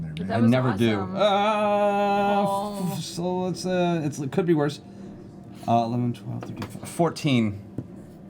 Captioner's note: groans